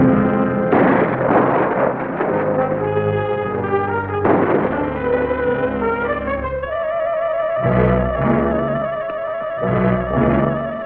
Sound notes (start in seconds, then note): 0.6 pistol firing; 2.6 dramatic music; 4.2 pistol fires; 5.2 dramatic music